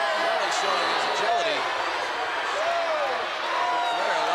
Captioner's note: crowd clamoring